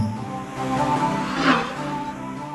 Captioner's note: trilling engines woosh